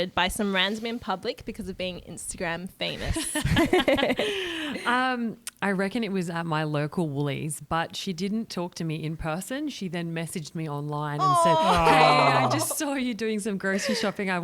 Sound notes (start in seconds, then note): 3.1 laughter